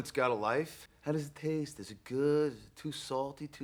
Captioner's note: mocking